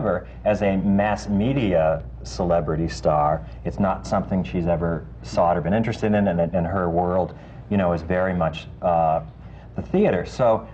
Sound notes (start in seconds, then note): none